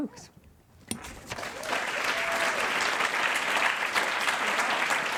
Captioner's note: audience applauds